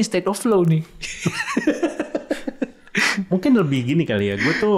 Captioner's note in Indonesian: tertawa